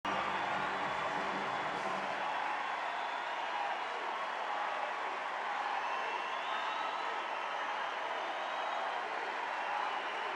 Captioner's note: cheers